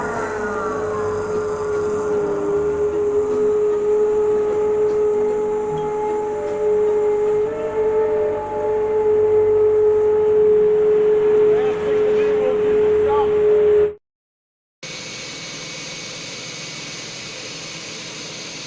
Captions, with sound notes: The last thing we'll do we'll do the dump. (machine whirring)